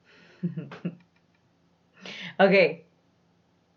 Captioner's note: chuckles